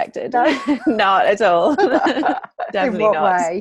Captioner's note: laughing